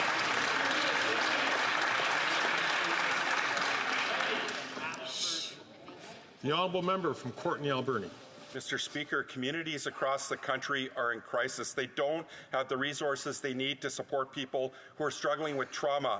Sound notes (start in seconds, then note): 1.8 some Applause